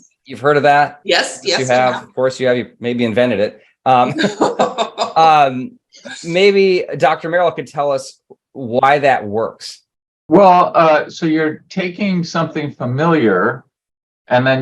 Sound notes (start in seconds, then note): 4.0 laughing